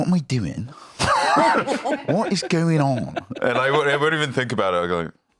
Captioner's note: laughs